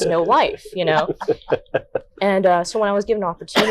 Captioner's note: laughing